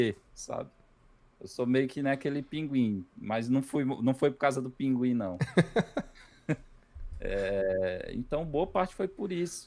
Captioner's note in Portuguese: risadas